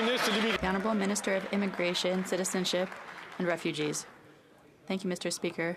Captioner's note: some Applause